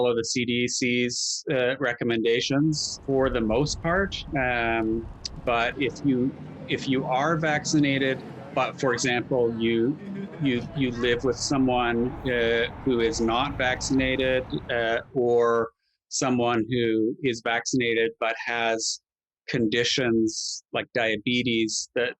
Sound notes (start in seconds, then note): 7.3 traffic humming; 11.5 people chattering